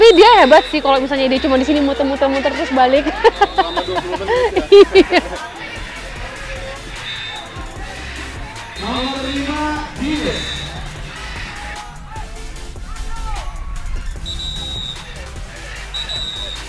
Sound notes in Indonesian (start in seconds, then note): 2.9 Ketawa